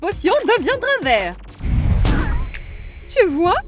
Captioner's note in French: boum